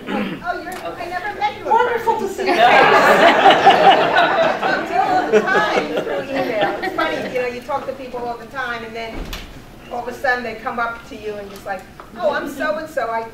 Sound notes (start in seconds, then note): 2.4 audience laughing